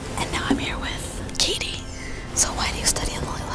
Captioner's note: whispering